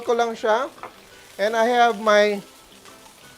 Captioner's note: sizzles